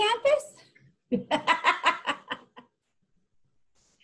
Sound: laughing

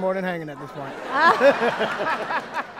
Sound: laughter

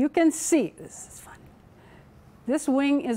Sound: whispering

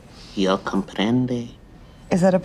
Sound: speaking in foreign language

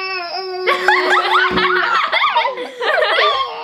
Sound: laughing

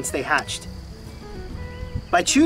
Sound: crickets chirping loudly

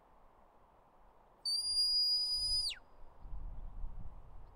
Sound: "Stop" whistle command

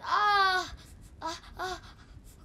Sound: crying out

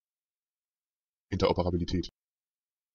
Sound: fast Pronunciation

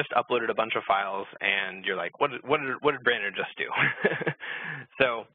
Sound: laughs

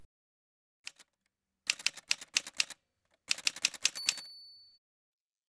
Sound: typewriter sounds

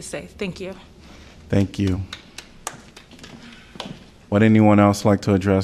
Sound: applause

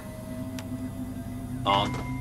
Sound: switch clicks

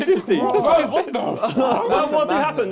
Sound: crowd mumbling

